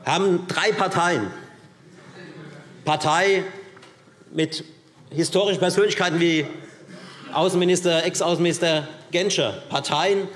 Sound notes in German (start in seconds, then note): none